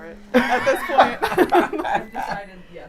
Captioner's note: laughs